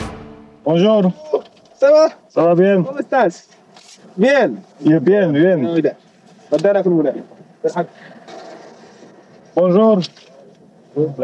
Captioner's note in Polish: rozmowa w j. francuskim, hiszpańskim